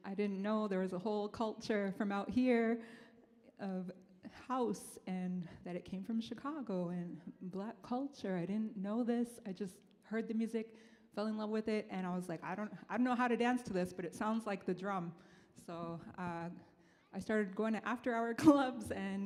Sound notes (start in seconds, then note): none